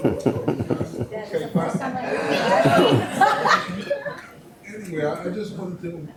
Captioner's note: audience chattering; videographer laughs